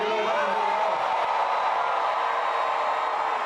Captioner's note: crowd screams loudly